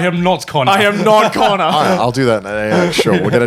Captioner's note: laughing